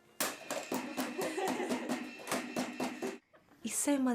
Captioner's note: laughter